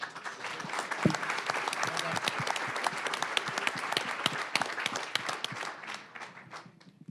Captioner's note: applause